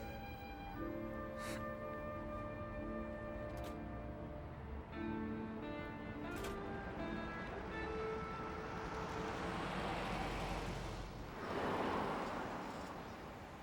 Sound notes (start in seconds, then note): 9.7 car engine whirring